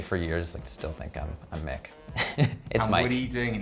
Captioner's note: laughs